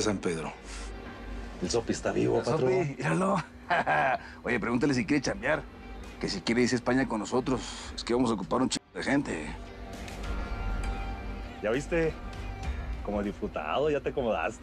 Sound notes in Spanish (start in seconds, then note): 3.2 Ríe